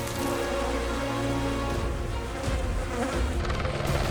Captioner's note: flames crackling; flies buzzing; helicopter blades whirring